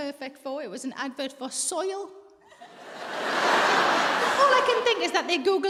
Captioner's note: audience laughs